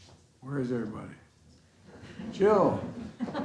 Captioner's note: laughter